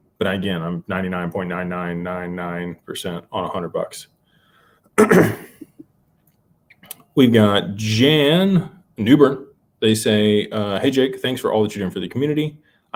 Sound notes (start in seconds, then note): 5.0 clears throat; 5.0 cough